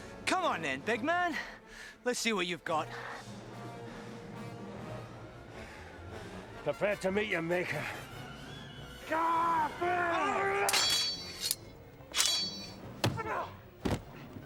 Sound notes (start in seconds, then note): 2.8 dramatic music; 9.0 men yell; 10.6 swords clang